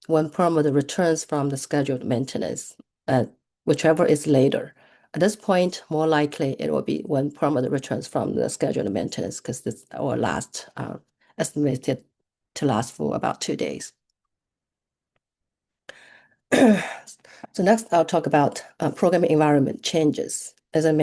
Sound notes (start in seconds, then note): 16.5 clearing throat